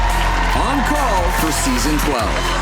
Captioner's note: crowd cheering